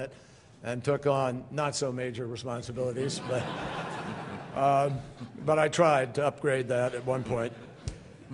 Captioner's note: laughter